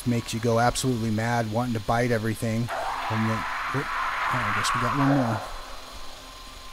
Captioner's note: more monstrous screams in the distance